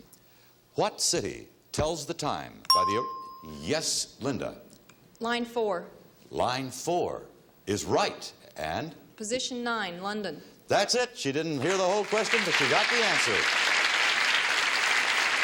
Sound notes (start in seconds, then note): 2.7 bell dinging; 15.2 audience applause